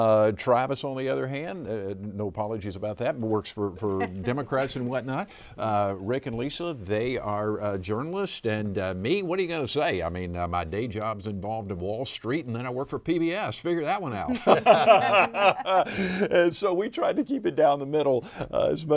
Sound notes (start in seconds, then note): 14.2 all laughing